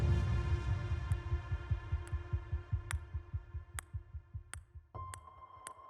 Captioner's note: ping pong ball sounds